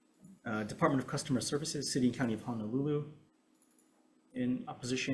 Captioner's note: none